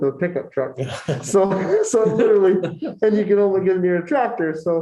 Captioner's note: laughter